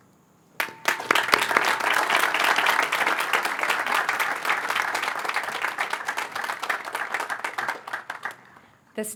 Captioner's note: applause